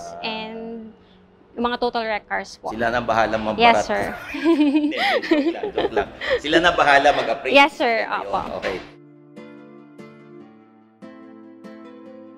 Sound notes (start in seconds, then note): 3.9 laughs